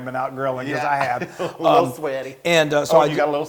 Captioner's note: laugh